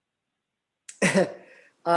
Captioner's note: chuckles